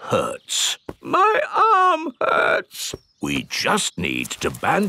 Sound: in teddy's voice; in normal voice

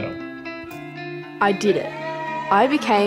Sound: cheering

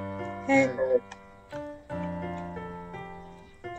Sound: girl & boy past in unison

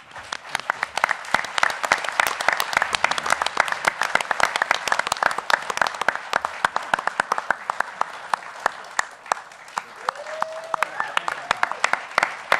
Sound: applause

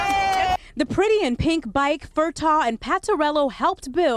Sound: cheering

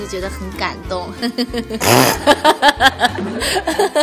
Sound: haha

